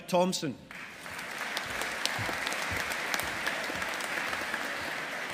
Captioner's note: audience applauding